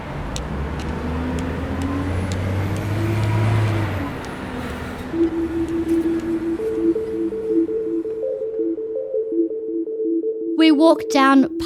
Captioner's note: traffic sounds